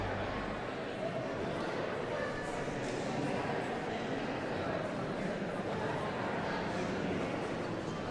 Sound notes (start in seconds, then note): 0.0 audience members continue chattering indistinctly